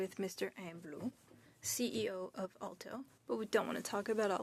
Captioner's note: speaking French